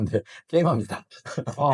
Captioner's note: laughs